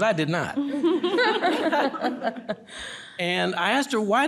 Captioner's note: panelists laugh